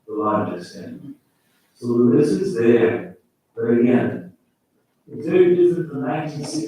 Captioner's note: faintly speaking